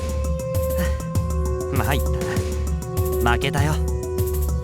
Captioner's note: chuckle